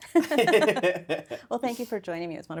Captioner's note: both laugh